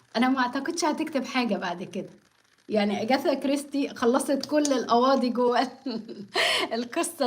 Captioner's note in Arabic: ضحك